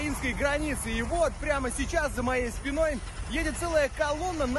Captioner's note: Russian